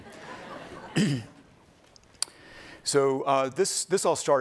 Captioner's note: laughing